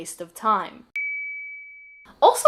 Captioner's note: ding